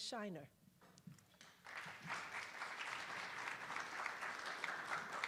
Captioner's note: attendees applauding